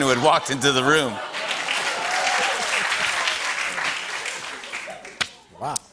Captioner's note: applause